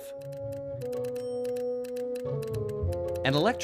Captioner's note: telegraph clicking